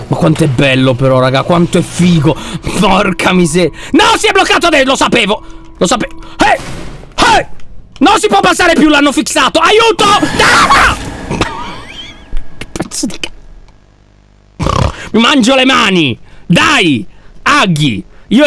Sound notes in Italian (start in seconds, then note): 10.0 urla; 14.6 grugnisce